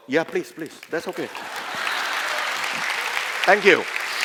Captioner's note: applause